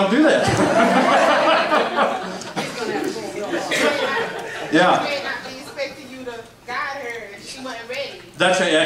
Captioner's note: audience laughs